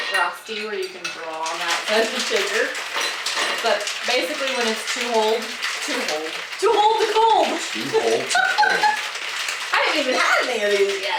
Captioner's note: laughing